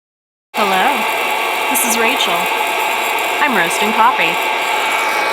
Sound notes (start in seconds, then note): 0.6 loud grinding